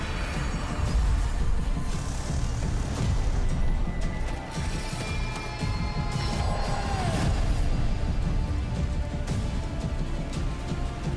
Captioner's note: screams